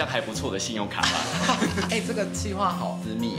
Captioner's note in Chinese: 哈哈哈哈哈